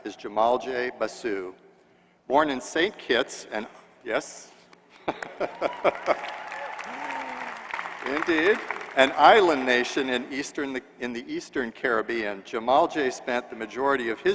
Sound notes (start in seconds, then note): 5.0 laughter; 5.1 applause